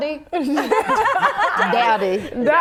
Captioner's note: laughing